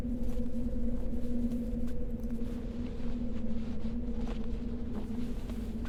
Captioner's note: low humming